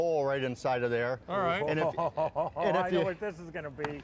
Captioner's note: laughter